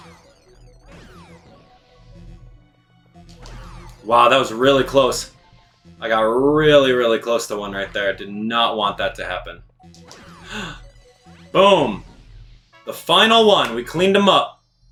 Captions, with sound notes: Wow, that was really close. I got really, really close to one right there, did not want that to happen. (gasps) Boom! The final one! We cleaned him up!